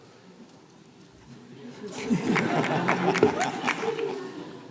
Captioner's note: laughter